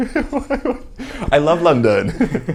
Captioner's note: laughs